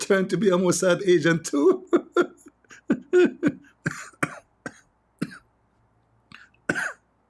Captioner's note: Ketawa